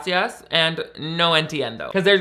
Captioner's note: speaking in foreign language